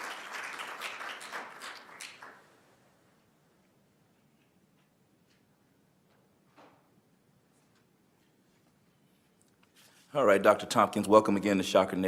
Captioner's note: applause